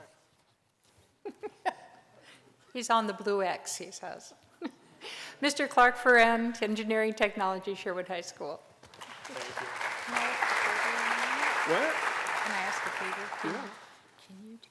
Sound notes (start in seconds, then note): 8.8 applause